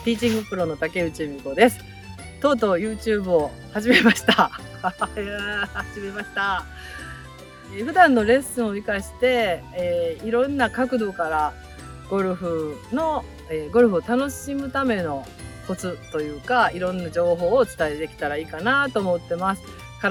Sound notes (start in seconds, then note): 9.1 laughs